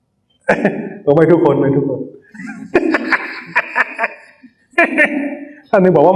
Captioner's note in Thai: เสียงหัวเราะ